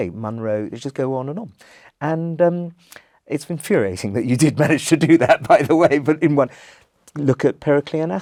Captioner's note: laugh